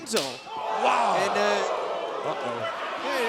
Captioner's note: crowd cheering